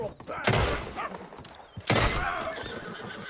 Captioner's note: gunshots